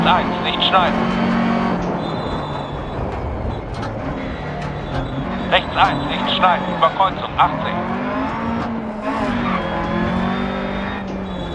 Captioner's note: engine noise and instructions from the co-pilot